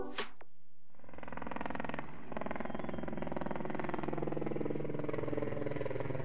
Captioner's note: helicopter blades whirring